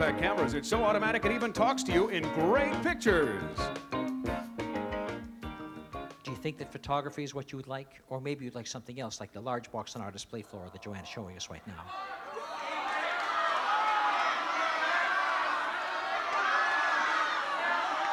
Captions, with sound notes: It's so automatic, it even talks to you in great pictures. - Do you think that photography is what you would like? Or maybe you'd like something else, like the large box on our display floor that Joanne's showing us right now? [crowd shouting]